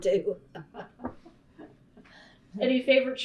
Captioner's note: laughter